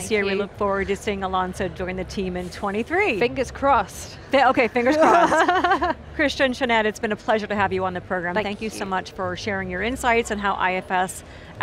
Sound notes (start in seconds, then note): 4.8 laughs